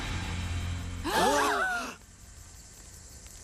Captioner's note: all gasp